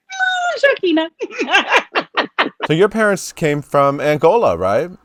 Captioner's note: laughing